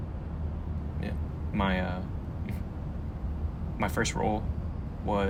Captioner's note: scoffs